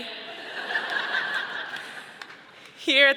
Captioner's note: audience laughing